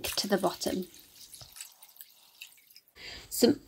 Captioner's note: water splashing